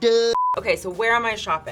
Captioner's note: screen beeps